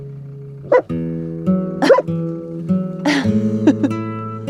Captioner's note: Vilk barks